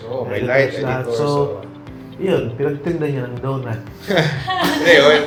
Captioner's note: laughs